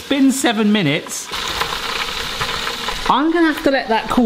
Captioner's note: oil bubbling